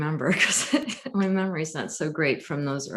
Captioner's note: laughs